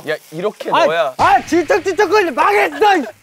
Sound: explosion

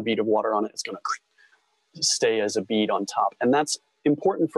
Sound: squelch

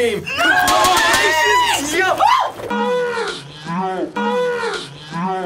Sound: exclaiming

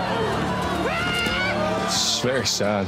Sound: screams

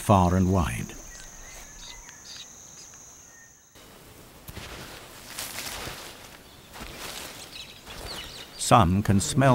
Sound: birds chirping; footsteps

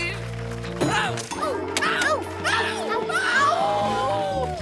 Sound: screaming; screaming and howling

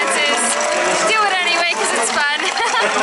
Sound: laughter

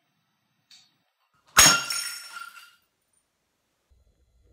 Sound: glass smashes

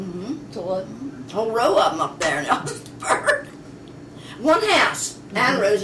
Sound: laughs

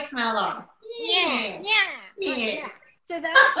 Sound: nasal tone

